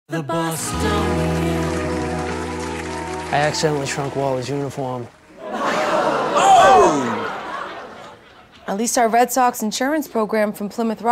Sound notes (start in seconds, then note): 6.4 shocked reactions